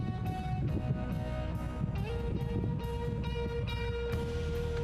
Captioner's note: wind blowing